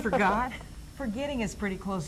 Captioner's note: laughs